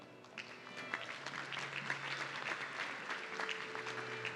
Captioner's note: audience clapping